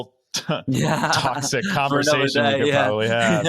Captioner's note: laughing